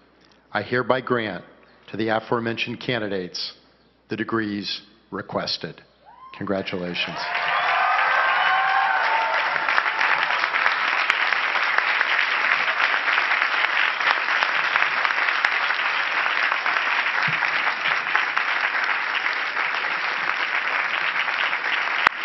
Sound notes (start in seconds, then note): 8.2 cheering and clapping